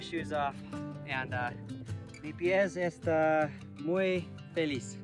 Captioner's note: speaking in foreign language